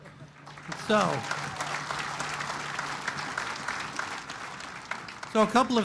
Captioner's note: applause